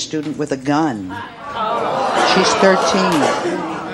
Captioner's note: audience hollering